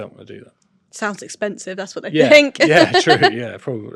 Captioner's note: laughs